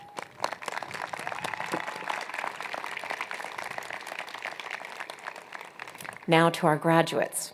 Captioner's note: applause